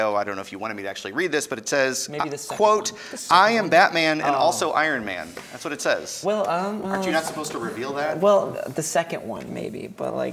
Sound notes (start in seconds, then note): none